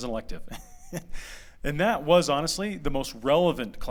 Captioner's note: laughter